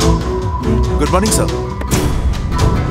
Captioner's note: Car door opens